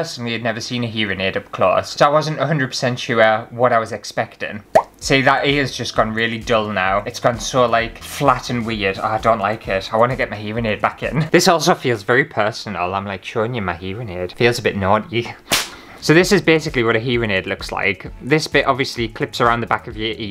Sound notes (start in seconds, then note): 15.5 whip!